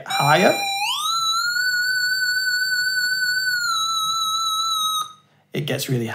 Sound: even higher square wave noise

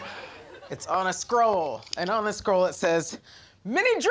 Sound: chuckles; balloon popping

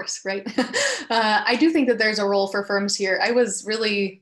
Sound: laughs

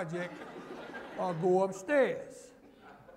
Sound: laughter

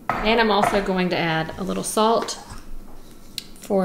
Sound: none

